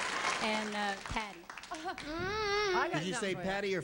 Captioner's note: groaning